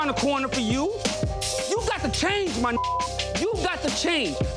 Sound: beeps

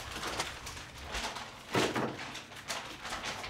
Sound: paper rattling

